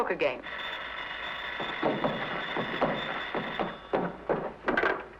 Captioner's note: telephone ringing